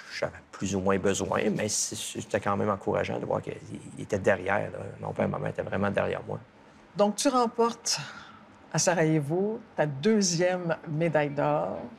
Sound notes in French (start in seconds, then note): none